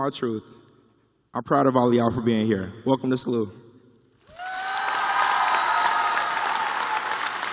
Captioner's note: cheers and applause